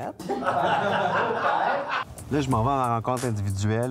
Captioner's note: laughs